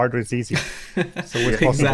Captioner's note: chuckles softly